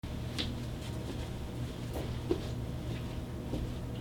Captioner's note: uneven footsteps